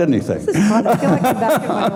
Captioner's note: laughing